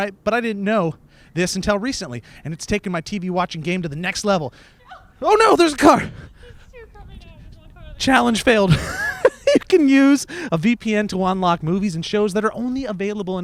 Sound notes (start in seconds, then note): 6.7 speaks faintly